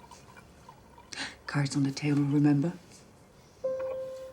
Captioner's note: wine pouring